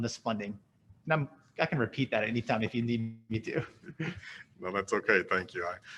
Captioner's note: laughs